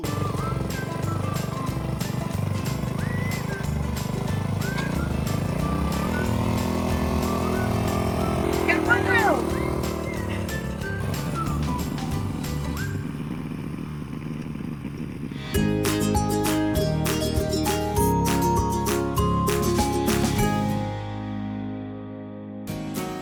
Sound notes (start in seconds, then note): 0.0 light whistling music; 0.1 engine roaring; 10.1 engine roaring; 10.1 light whistling music; 15.4 transition music